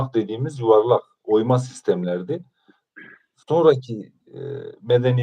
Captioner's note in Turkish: boğazını temizler